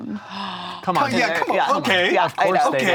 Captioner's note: gasps